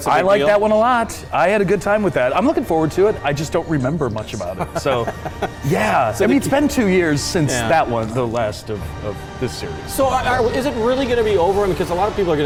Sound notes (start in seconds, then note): 4.4 laughing